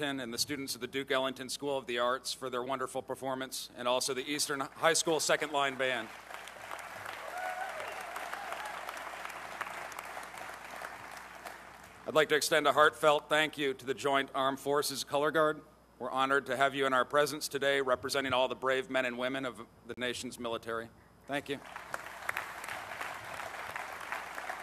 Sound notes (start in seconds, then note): 9.3 applause